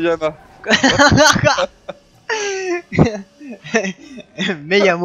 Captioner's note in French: Rires